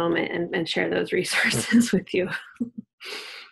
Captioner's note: chuckles